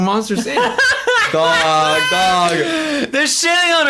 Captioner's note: laughs